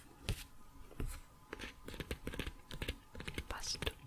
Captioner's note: tapping on pages